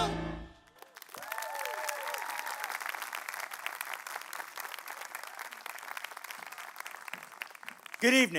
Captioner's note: applause